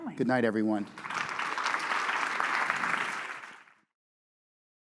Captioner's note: audience applauding